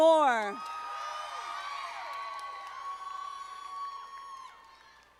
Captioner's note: audience applauding